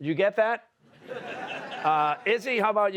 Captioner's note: laughter